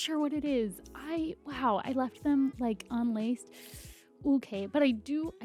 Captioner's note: sharp breath in